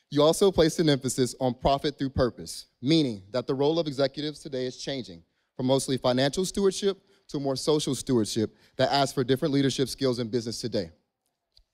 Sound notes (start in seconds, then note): none